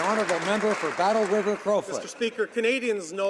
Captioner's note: applause